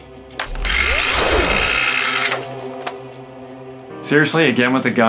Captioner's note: toy missile whistling